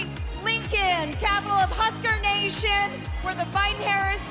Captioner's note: cheers and applause